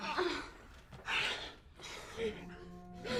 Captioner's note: woman panting; suspenseful music